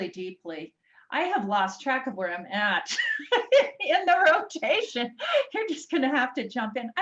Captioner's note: laughs